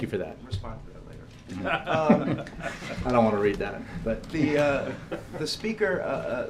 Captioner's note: laughter; laughter